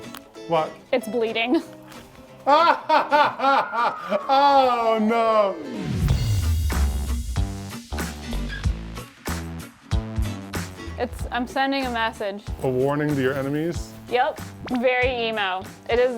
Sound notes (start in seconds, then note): 2.3 laughs; 6.2 lively upbeat music